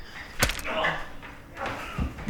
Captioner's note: pain noises; gun smacks head